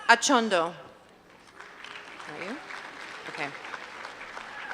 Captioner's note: applause